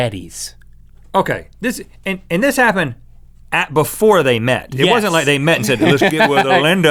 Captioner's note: laughs